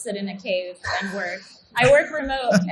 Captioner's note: laughs